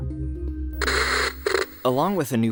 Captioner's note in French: crépitements d’écran